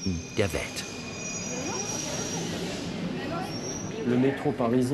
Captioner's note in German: Leises Stimmengewirr